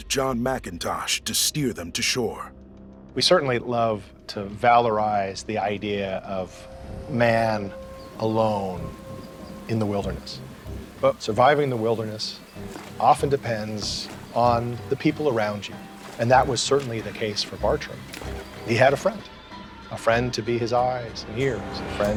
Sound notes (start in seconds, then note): none